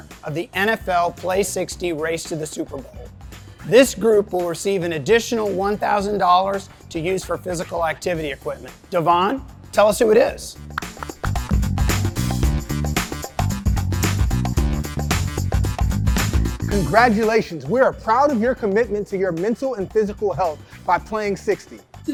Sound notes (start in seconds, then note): 10.8 applauding; 11.5 upbeat music